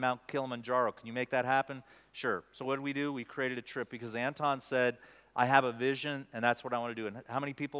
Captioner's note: none